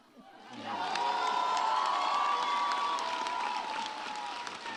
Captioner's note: audience cheers